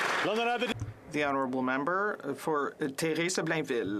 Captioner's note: some Applause